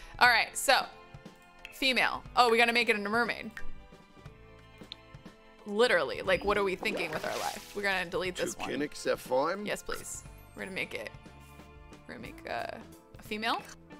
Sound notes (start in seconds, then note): 8.7 avatar speaks in Simlish